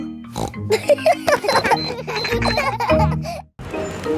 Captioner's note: snorts; kids laughing